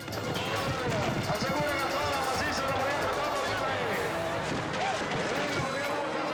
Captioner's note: announcer shouting in foreign language